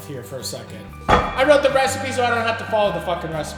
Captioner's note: book thuds